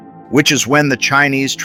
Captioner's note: excited